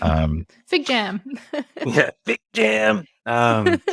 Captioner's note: laughs